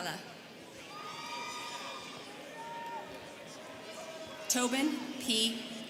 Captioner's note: students cheering